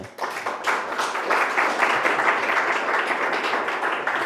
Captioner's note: applause